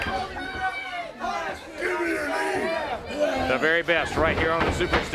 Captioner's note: crowd chatter